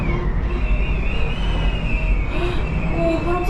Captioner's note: the sound of a chilling wind